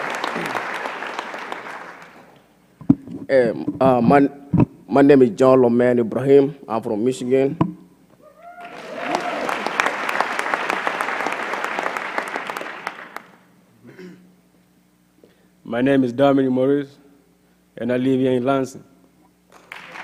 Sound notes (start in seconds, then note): 0.0 applause; 8.6 applause